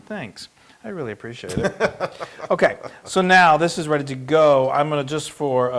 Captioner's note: laugh